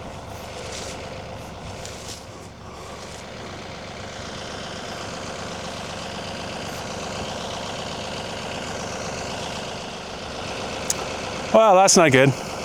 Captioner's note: motor whirring